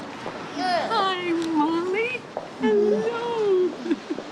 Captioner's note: laughs